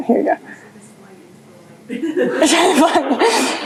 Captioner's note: laughter